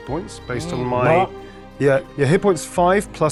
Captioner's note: grunts